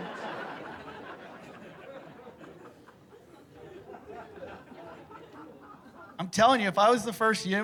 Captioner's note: laughter